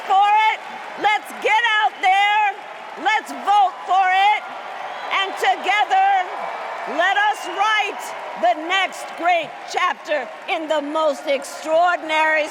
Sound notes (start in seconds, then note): 0.0 cheers and applause